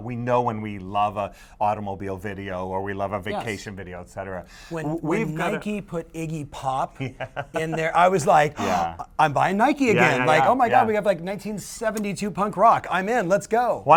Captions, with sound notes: We know when we love an automobile video or we love a vacation video, et cetera. - When Nike put Iggy Pop in there, I was like (gasps) I'm buying Nike again. Oh my god, we have 1972 punk rock, I'm in, let's go.